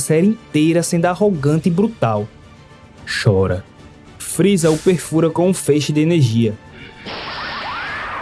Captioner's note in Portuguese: grito